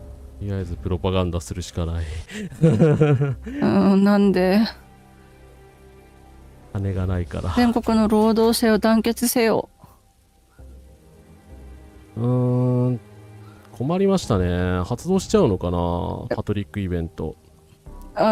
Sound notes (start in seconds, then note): 2.3 laughter